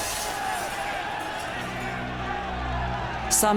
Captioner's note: crowd yelling